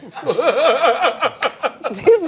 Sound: laughter

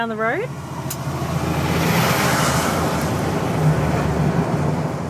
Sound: truck engine droning

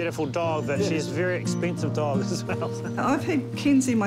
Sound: chuckles

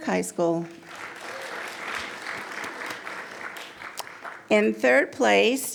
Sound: attendees applauding

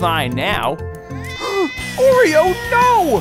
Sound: gasping

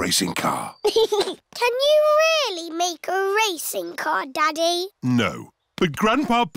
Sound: chuckles

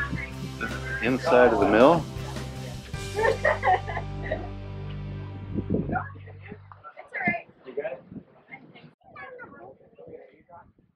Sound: laughing

